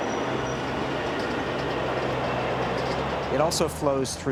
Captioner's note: traffic thrumming